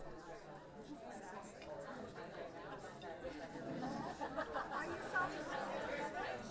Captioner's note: indistinct group conversations